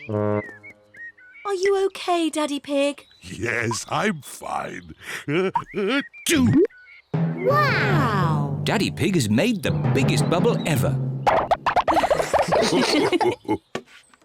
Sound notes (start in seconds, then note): 5.2 sneezes; 11.8 all laugh